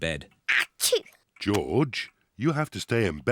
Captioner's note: sneezes